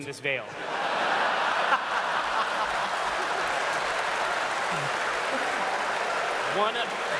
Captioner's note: laughter